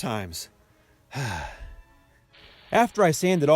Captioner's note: sigh